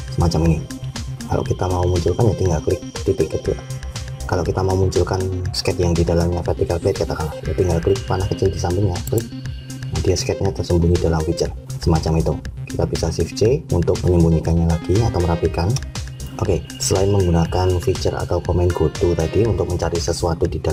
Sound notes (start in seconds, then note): 9.0 click